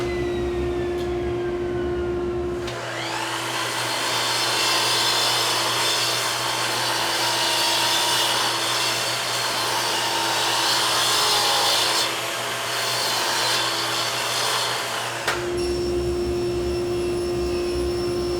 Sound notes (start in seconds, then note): 3.1 circular saw buzzing; 11.9 circular saw buzzing; 15.9 saw buzzing